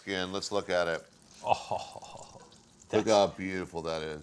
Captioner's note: Ming chortles